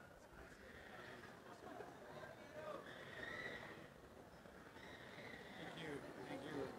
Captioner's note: background chatter